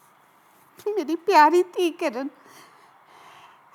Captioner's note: in Punjabi